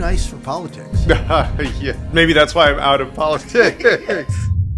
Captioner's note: laughs